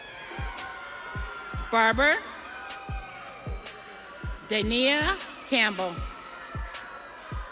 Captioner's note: audience cheering